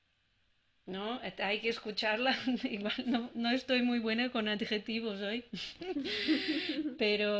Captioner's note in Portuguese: risos